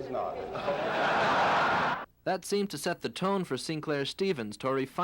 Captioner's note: laughing